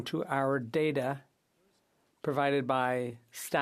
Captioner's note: speaking French